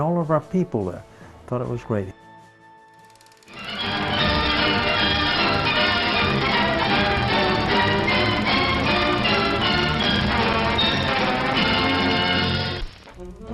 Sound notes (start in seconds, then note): 2.9 film ticking; 4.1 bright patriotic music